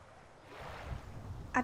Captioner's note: rolling surf